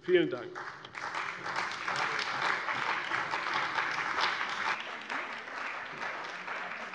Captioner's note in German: Beifall bei der CDU und dem BÜNDNIS 90/DIE GRÜNEN